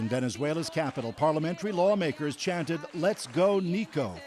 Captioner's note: speaking alternate language